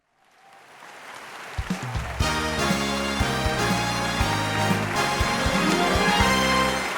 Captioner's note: audience applauds; lively music